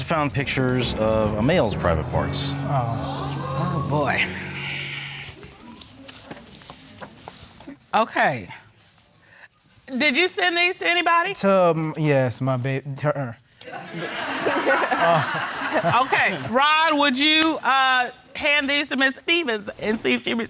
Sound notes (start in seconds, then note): 3.2 all exclaim; 13.9 all laughing